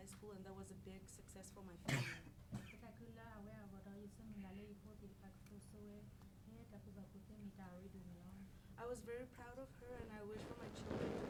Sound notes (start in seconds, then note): 3.0 speaking in foreign language